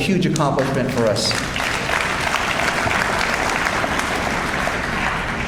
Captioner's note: audience applauds